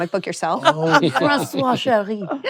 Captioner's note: in french accent